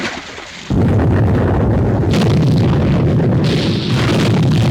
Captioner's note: bombs exploding